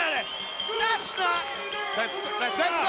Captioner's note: bell dinging